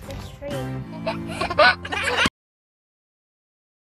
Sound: laughing

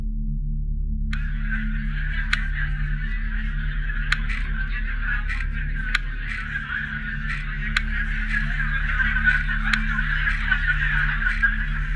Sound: buttons clicking on; many voices over the headset

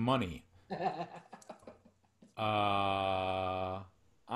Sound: laughing

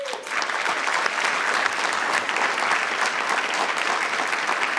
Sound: audience applauding

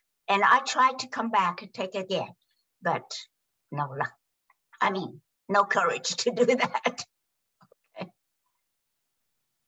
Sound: laughs

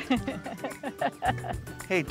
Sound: chuckles

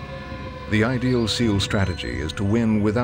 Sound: voiceover

